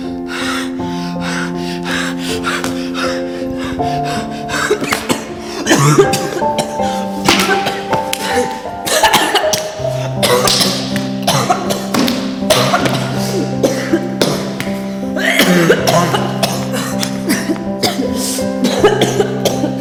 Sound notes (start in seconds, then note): 0.0 heavy breathing; 0.2 wheezing; 4.4 coughing